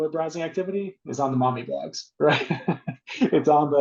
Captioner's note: laughing